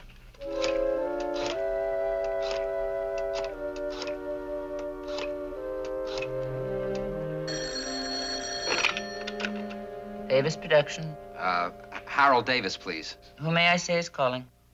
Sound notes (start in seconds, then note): 7.4 ringing